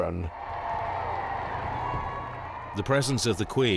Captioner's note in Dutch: publiek juicht